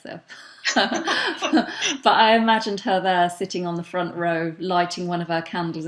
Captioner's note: laughs